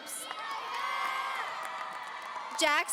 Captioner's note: audience cheering